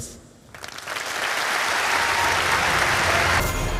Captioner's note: applause